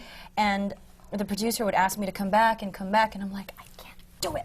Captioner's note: whispers